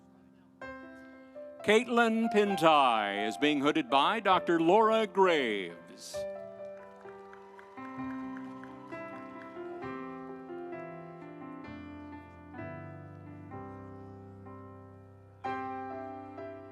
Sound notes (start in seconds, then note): 7.1 audience cheering; 7.3 instrumental music